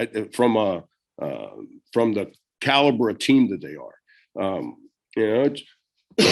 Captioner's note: coughs